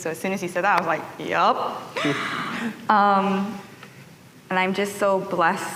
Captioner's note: chuckles